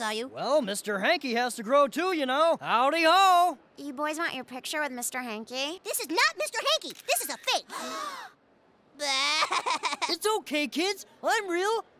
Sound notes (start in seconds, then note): 7.6 kids gasp; 9.0 kid cries